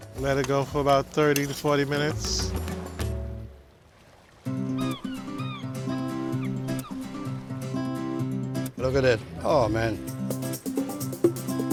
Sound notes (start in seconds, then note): 4.4 seagulls chirping; 4.4 guitar playing